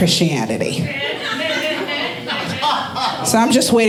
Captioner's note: audience laughing